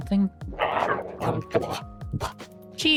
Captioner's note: growling